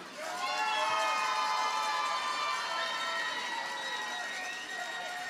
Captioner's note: audience cheers and applauds